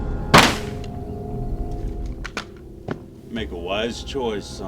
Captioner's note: gun fires